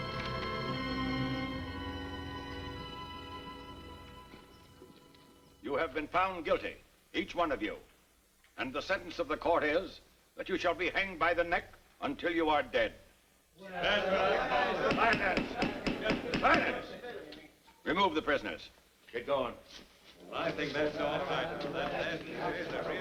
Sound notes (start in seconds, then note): 13.7 spectators murmuring; 20.2 spectators murmuring